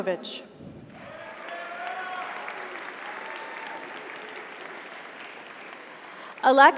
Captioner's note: audience cheers; audience applauds